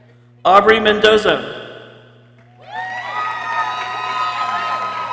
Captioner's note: people cheering